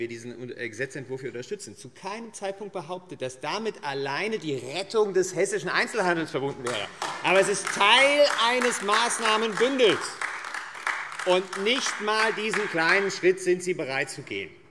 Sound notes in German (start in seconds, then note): 6.6 Beifall AfD